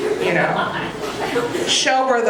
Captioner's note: audience laughing